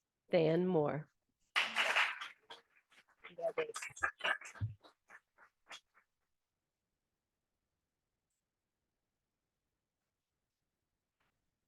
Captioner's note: audience applauding